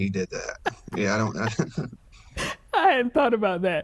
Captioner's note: laughs